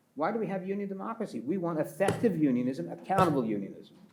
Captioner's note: pats table